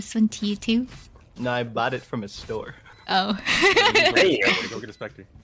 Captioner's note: laughter